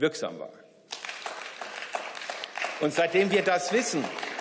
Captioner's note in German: Beifall